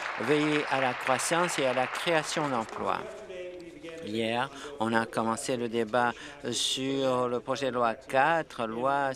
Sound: applause

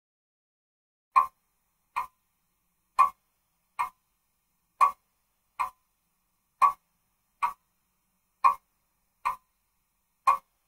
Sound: sound of clock pendulum ticking

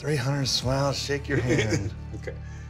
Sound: laughs

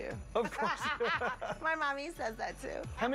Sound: laughs

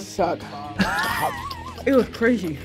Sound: laughs

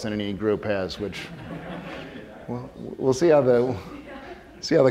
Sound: audience laughing

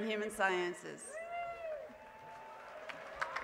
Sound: applause

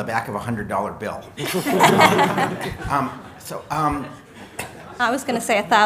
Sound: laughter

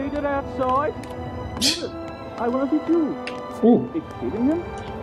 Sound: scoffs

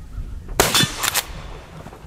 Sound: gun fires

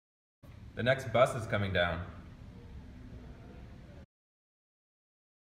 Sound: none

